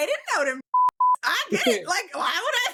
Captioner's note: beep